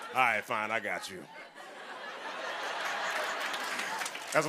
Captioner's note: laughter; laughter and applause